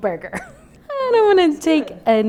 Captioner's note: laughing